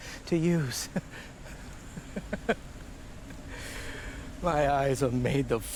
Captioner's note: laughing